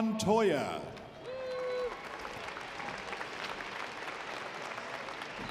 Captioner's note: audience applauding